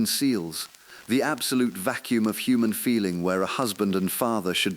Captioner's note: exhale